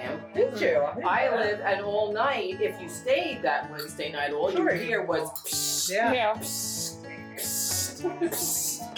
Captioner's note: inflating noises